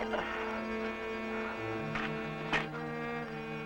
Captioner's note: Slug grunting